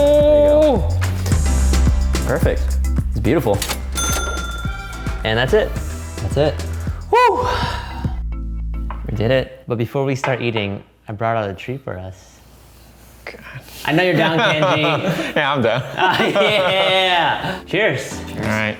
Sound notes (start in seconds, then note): 1.7 upbeat music; 16.3 laughing